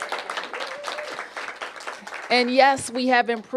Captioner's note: applause